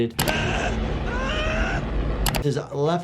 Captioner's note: person screaming